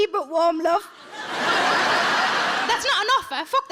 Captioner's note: audience laughing